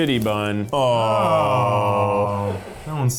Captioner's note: humming